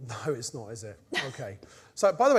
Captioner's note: laughs